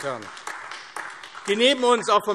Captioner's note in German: Beifall AfD